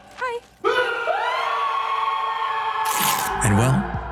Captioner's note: yelling